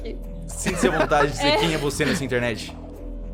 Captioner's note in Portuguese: Risadas